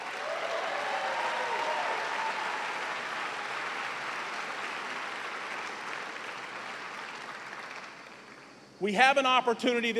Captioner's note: cheers and applause